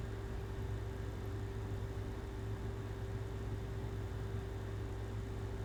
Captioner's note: air conditioner humming continues